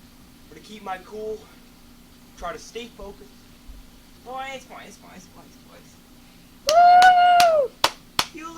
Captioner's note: applause